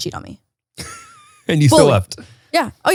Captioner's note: laughs